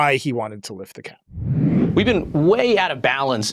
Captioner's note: transition whooshes